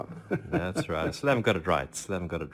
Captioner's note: laughs